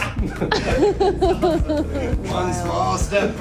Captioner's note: all laughing